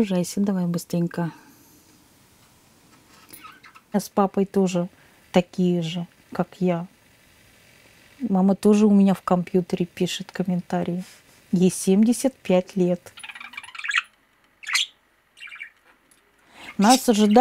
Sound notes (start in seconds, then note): 13.4 bird chirping